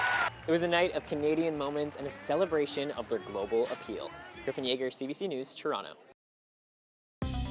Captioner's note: applause